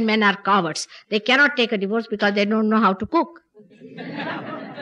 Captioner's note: laughter